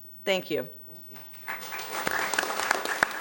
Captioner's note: applause